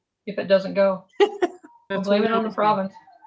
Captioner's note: laughs